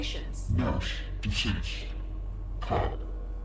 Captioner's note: distorted voice